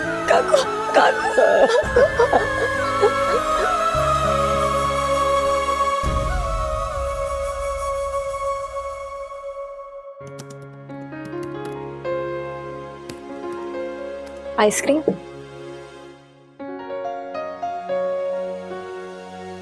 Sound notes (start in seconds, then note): 0.2 crying inconsolably; 2.9 sad music playing; 10.1 computer keys clanking; 16.6 piano playing